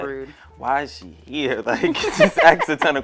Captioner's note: laughs